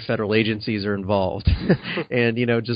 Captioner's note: acknowledging chuckles